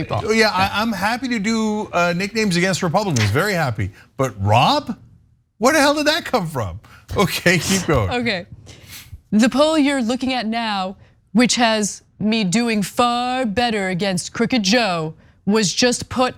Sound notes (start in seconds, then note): 7.2 laugh